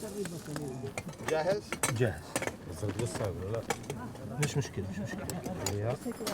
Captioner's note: speaking foreign language